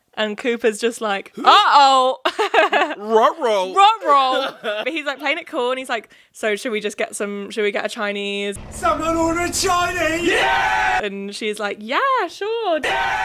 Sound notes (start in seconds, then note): 10.4 crowd cheering; 12.8 crowd cheering